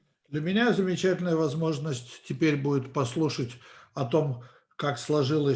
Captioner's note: translator speaking Russian language